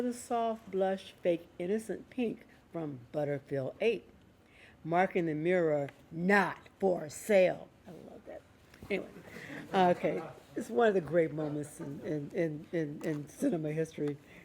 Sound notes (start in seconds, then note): 9.0 laughing